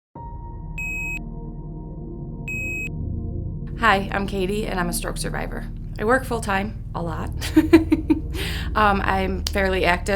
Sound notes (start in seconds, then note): 0.0 calming music; 0.8 beeps; 7.4 laughs